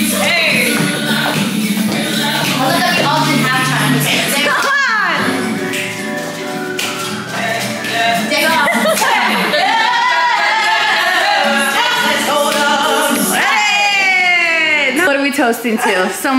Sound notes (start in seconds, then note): 4.8 laughs; 13.3 cheers